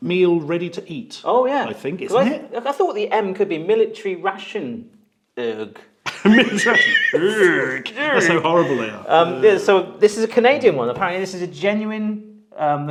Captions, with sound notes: - Meal ready to eat. - Yeah? - I think, isn't it? - I thought the M could be military ration, erg (laughs). - Military ration erg! That's how horrible they are. - Yeah, so this is a Canadian one, apparently this is genuine,